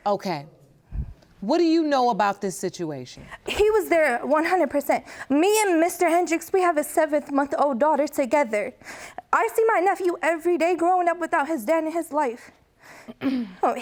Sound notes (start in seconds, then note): 9.5 voice breaking